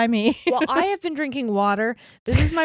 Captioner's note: giggles quickly